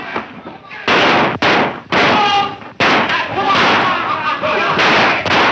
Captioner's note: loud gunshots and shouting